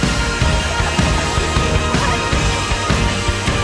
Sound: audience applauds; laughing

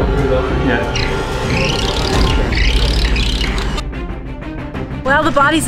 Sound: drill whirring; dramatic music

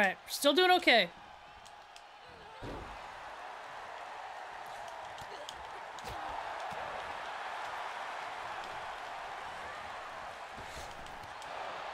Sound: applause

